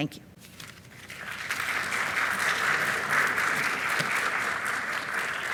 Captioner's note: audience applauding